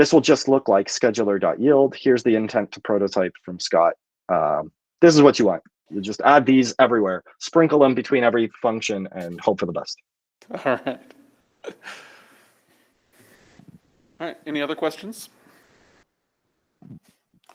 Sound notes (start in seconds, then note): 10.5 laughter